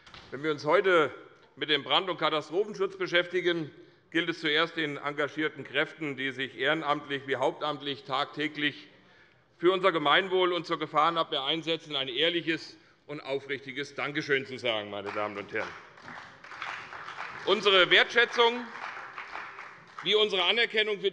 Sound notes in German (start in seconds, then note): 14.7 Beifall bei der CDU, der SPD und dem BÜNDNIS 90/DIE GRÜNEN